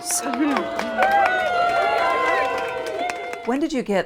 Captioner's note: staff cheering